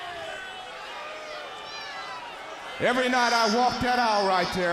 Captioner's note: crowd chatter